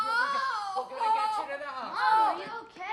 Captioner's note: cries out